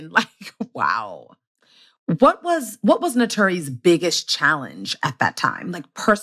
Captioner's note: laughs